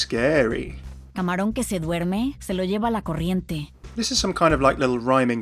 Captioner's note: Sombra speaking in foreign language